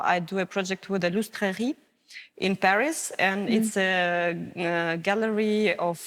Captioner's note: french Language